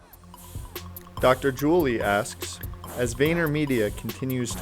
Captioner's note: voiceover